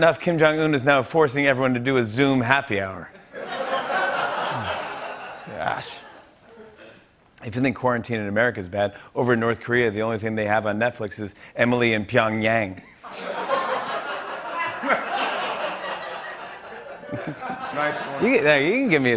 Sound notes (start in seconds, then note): 4.4 sighs; 12.9 laughter